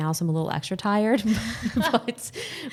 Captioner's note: both laughing